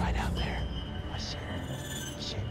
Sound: whispering

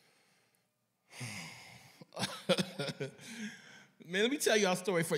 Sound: sighing, laughing

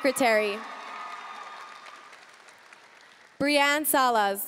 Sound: audience cheering and applauding

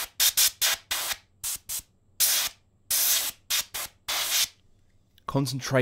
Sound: compressed air nozzle puffing

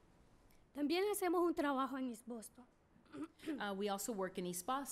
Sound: speaking spanish

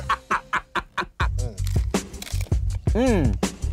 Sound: laughing; tacos crunching

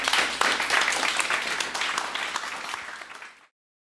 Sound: applause

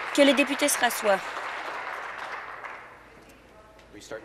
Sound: applause

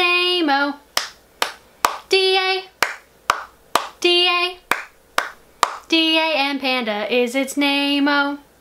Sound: clap clap clap

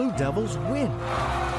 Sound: cheers

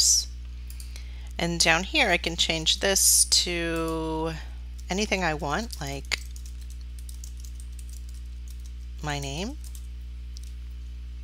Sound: typing

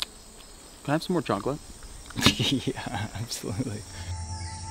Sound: laughs

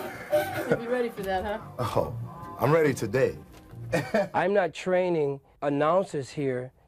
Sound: laughter

